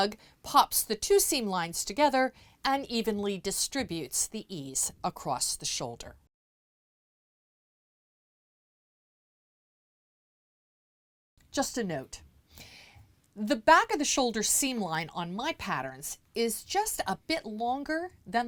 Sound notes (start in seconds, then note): 6.2 no Sound Present